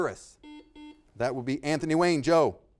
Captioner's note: buzzer beeping